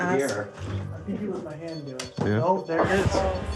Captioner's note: device beeping